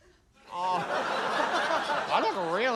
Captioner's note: laughter